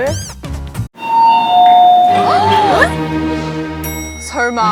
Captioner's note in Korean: 딩-동